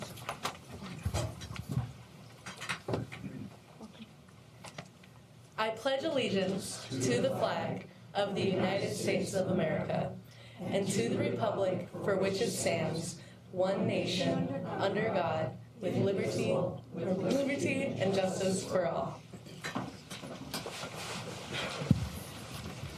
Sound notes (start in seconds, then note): 3.8 group speaking